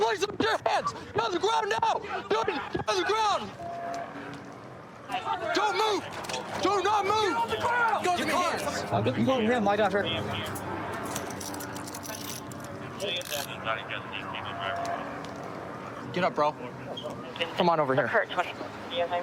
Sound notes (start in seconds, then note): 12.7 dispatch chatter